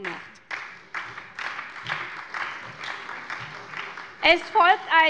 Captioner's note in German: Beifall bei der SPD